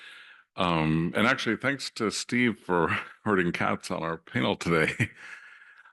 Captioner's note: laugh